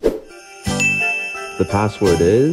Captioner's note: ding sound effect